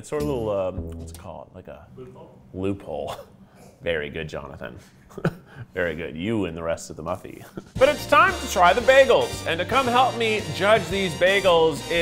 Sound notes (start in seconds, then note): 5.0 chuckling